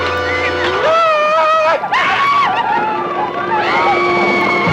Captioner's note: dramatic orchestral music; Red Hawk howls